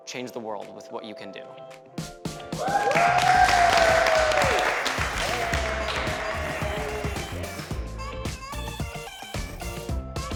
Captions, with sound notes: change the world with what you can do. (participants and crew cheering) (upbeat music)